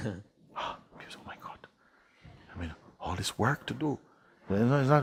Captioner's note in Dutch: Mooji snakt naar adem en hij vervolgt